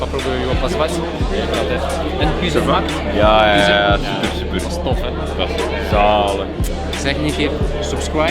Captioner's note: speaking Dutch